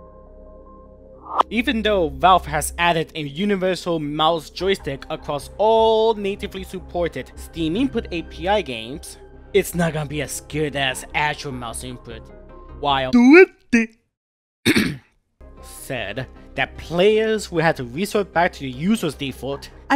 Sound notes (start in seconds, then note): 14.6 throat clearing sound